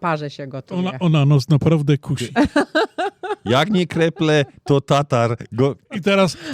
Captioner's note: śmiech